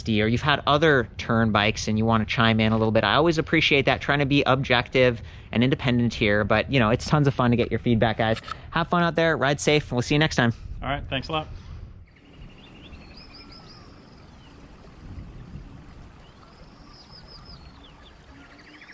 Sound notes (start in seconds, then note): 12.3 birds squealing; 12.3 wind blowing